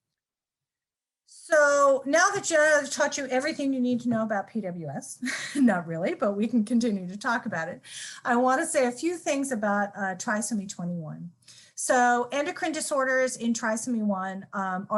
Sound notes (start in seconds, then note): 5.2 laughter